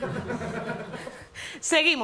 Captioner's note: laughter